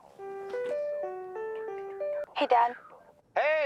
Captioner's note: cell phone ringing